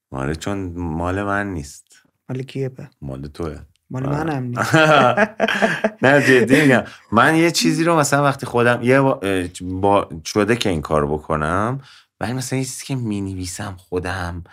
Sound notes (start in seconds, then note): 4.6 laughter